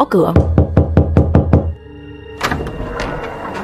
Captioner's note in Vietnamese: tiếng gõ cửa; tiếng cửa mở